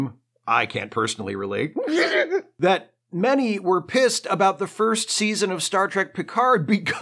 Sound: stifled sob

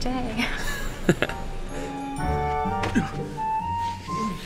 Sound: chuckling

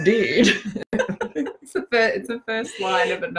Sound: both laughing

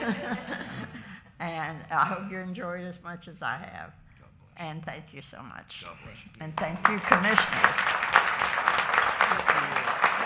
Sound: applause

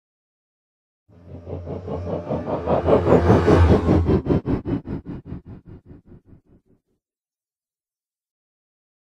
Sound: sound of engine

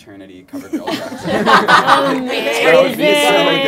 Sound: laughter

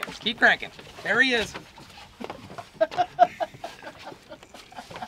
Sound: background laughing

